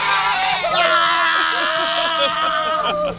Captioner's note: cheering